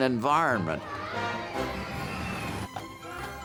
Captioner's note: kids screaming